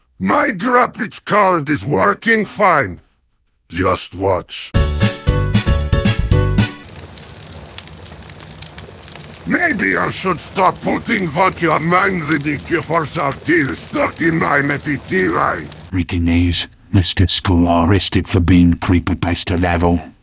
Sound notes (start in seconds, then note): 6.8 sounds of a computer's GPU burning into flames